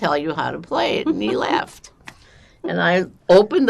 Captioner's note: laughing